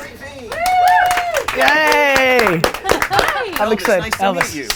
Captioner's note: applause